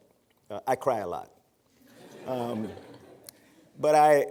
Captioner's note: laughter